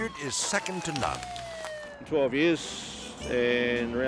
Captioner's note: sirens blaring